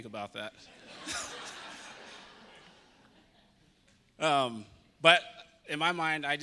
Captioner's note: audience laughing